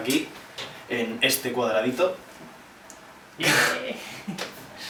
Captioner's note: spanish only